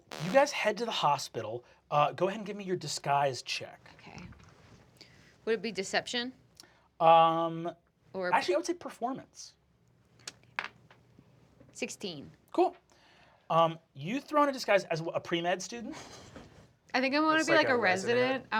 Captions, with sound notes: You guys head to the hospital, go ahead and give me your disguise check. - Okay. Would it be deception? - Actually, I would say performance. (die rolls) - 16. - Cool. You throw on a disguise as what, a pre-med student? - I think I want to be a resident,